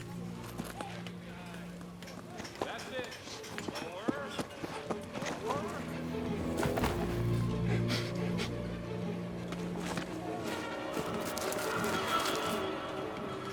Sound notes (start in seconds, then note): 7.0 Walter sniffing; 10.5 dramatic music